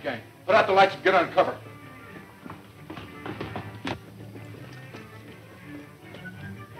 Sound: running footsteps

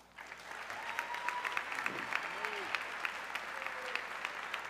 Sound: audience cheering

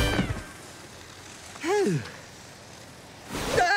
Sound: sighing; screaming

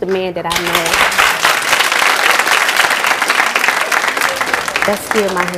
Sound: audience applauds

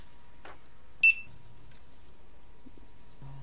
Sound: registration beep

